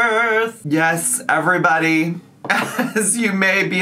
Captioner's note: laughs